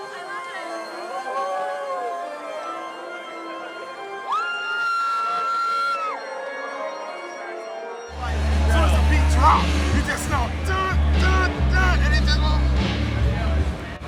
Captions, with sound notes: - I love it. (person cheers) - Soon as the beat drop you just know, (mimics beat drop). And it just...